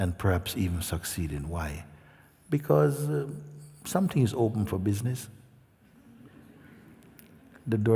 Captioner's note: laughter